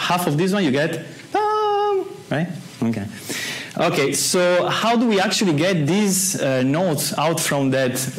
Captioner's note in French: imite le son